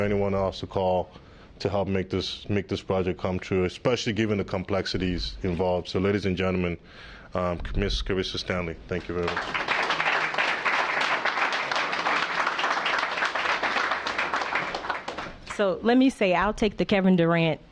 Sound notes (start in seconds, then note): 14.2 applause